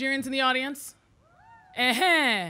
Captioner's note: audience cheering